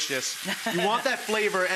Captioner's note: laughing